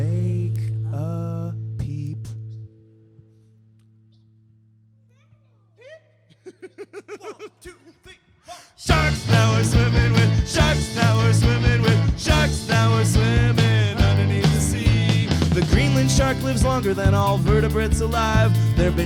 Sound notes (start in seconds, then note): 5.7 laughs